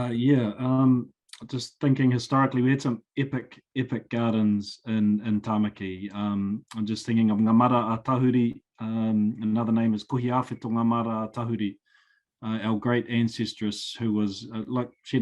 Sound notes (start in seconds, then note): 7.9 speaking foreign language